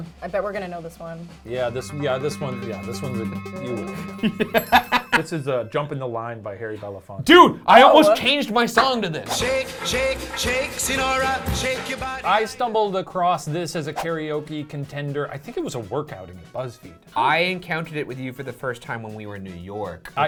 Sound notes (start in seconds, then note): 0.5 suspenseful music; 3.8 laughing; 4.1 chimes dinging